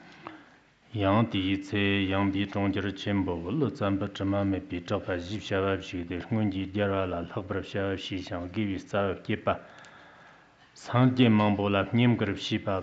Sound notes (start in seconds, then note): 0.9 giving oral transmission in Tibetan